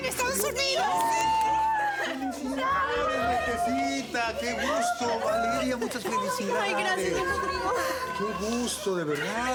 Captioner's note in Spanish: exclamaciones; risas